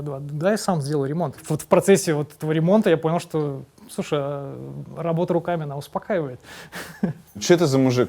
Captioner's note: chuckles